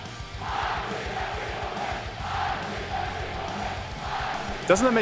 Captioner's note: crowd loudly chanting